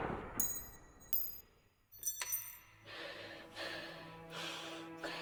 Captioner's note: gun shots firing